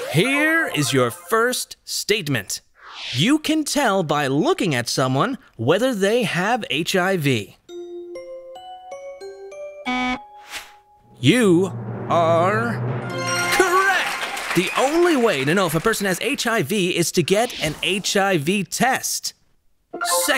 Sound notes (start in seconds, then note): 9.8 buzzer